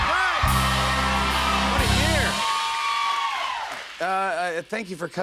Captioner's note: cheers and applause